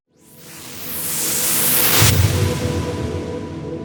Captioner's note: wooshing